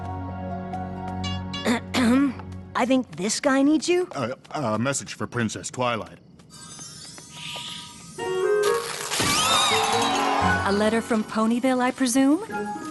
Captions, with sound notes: (Spike clears his throat) I think this guy needs you. A message for Princess Twilight. (party noisemakers) A letter from Ponyville, I presume?